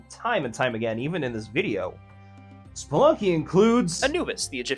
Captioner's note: deep breath